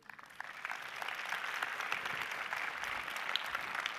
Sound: audience applauding

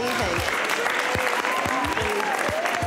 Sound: attendees applauding

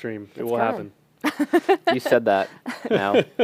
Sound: laughter

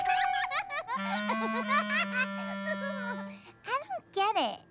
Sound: giggles

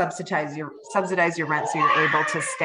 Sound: child screaming

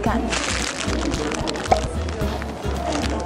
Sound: big munch

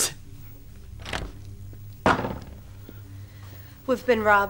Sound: door opening

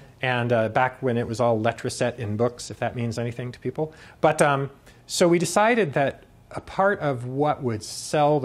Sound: none

